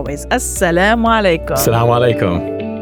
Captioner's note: speaks in Arabic; upbeat music